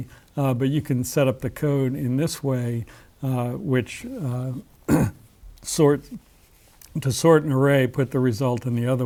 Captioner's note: cough